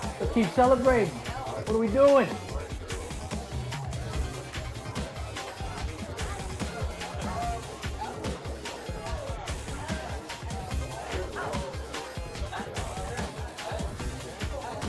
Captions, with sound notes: Let's keep celebrating, what are we doing? (people chattering) (upbeat music)